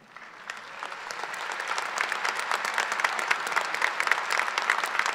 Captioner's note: audience applause